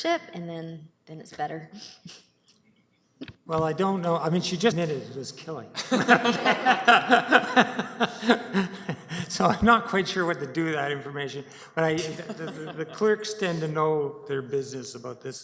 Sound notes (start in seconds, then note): 5.7 laughter